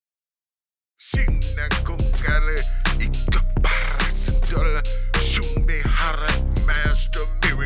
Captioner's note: speaking new language